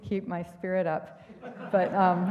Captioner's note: laughter